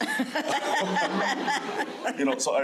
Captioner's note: crowd laughing